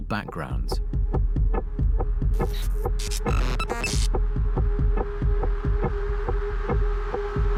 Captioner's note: static hisses; tense booming music